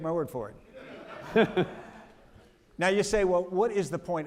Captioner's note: audience laughing